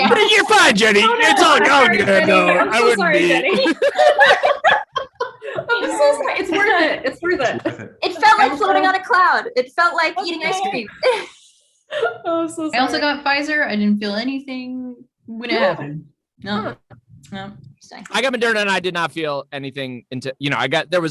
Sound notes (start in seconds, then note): 3.6 group laughing; 10.1 laughs